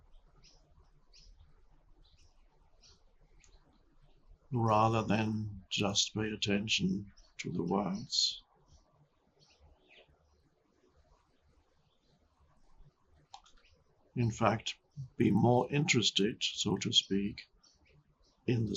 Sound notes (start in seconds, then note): 0.0 birds chirping; 9.2 birds chirping